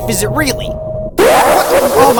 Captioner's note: evil laugh again